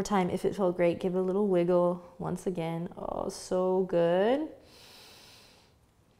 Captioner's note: inhales